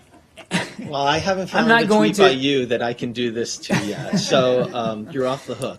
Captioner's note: laughter